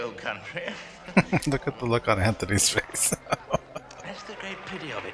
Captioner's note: laughing